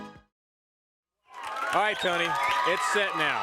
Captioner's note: crowd cheering